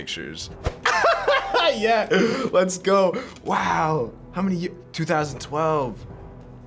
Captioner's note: laughs